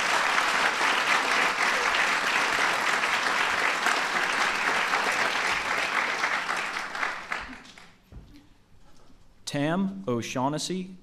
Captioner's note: applause